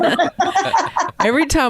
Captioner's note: all laughing